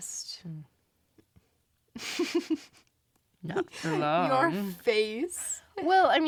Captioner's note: laughs